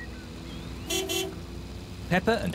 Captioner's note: horn honks